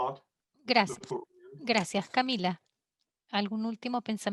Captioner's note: in foreign language